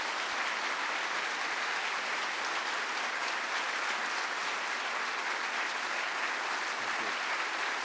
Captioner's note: applause